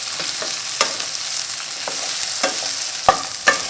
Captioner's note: sizzling